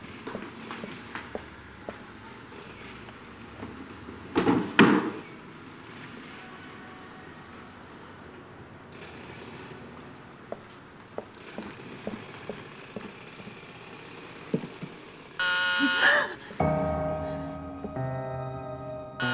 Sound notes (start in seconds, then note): 15.4 door bell buzzes; 16.0 gasps; 16.6 intense music playing; 19.1 door bell buzzing